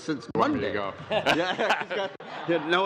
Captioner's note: laughter